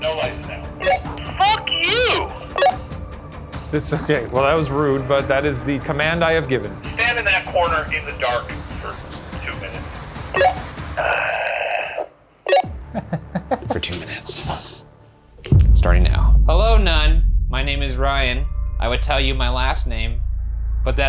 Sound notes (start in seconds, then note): 11.0 groaning